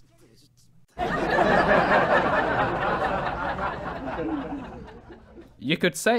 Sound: audience laughter

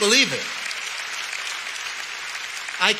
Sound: audience clapping

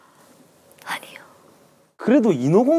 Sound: whispers

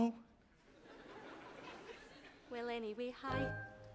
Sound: audience laughs

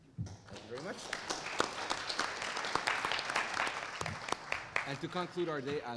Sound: applause

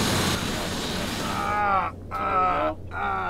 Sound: groaning

